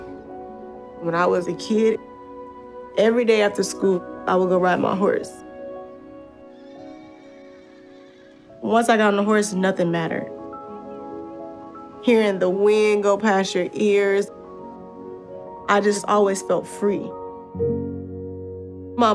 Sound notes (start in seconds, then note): 6.6 horse neighing